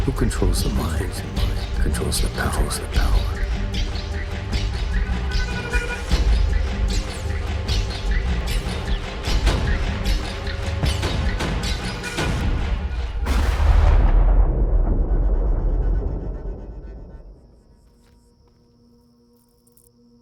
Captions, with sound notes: - Who controls the mind, controls the power. [thunder crashes] [sad music]